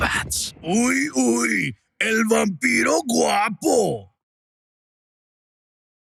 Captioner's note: character speaking in spanish